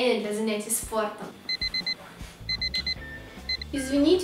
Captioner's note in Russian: Звонит будильник